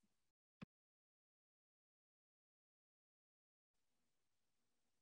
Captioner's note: pause